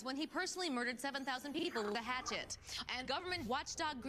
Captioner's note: Static